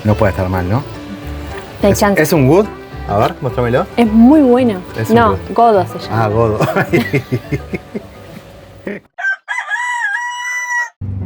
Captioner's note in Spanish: risas